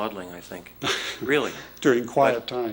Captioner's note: chuckles